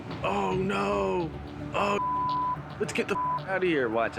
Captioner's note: beep